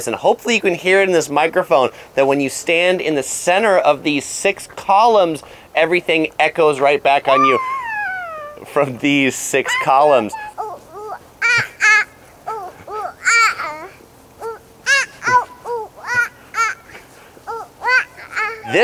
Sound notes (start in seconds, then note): 12.4 babbling; 14.4 babbling continues; 14.4 giggling